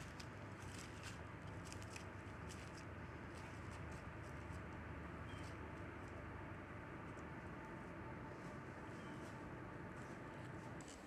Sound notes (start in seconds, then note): 5.3 bird chirping